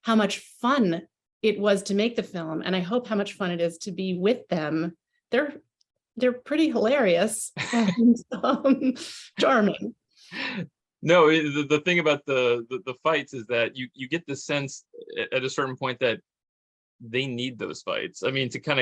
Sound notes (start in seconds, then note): 7.6 chuckles; 10.4 chuckles